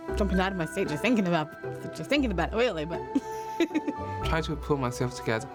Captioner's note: laughs